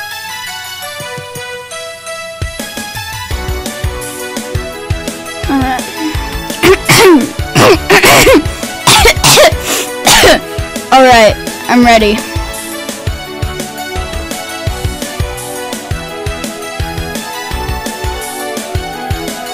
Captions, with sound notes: Alright, *clears throat/coughs* *clears throat/coughs* *clears throat/coughs* *sniffs* *clears throat/coughs* Alright, I'm ready"